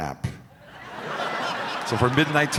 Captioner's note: crowd laughs